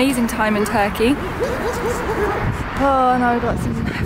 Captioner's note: dogs barking